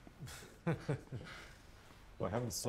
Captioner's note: chuckling